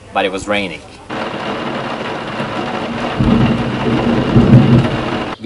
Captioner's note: thunder and rain